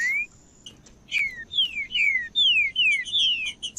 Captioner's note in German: trinca ferro cantando